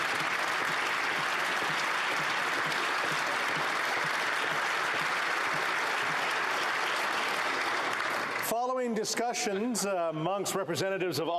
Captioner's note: applause